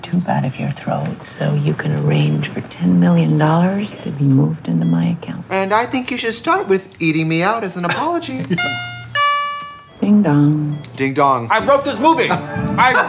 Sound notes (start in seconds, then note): 8.4 bell Rings